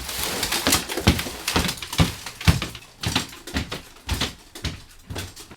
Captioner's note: stomping